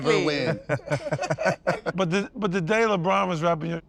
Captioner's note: laugh